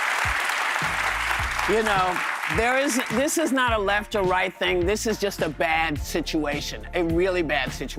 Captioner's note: applause